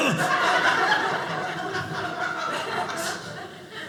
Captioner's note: audience laughing